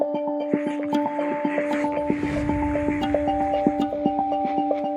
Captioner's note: static sounds